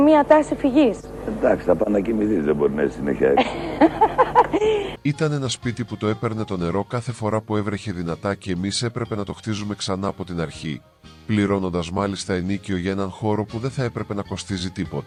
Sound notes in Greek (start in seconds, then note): 3.3 γέλια